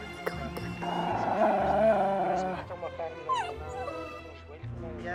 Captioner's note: dog growling